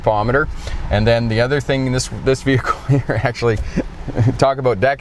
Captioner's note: chuckling